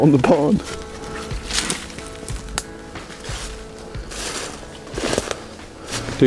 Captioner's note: sound of walking